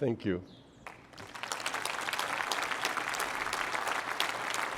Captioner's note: applause